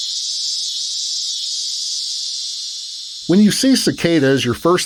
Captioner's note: cicadas hissing